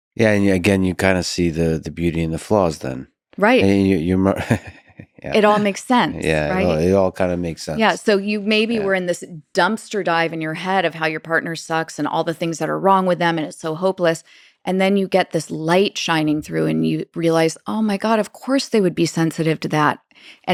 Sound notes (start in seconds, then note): 3.6 chuckling